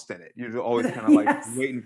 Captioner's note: laughingly